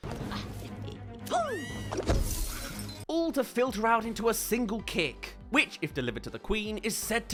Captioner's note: screams